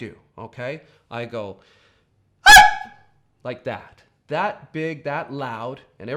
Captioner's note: high pitch yelp